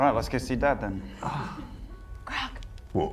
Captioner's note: whispers